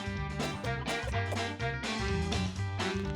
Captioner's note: both cough